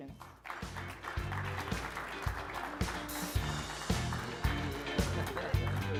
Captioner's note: upbeat music; audience applauding